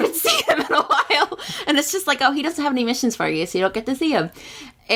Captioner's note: laughs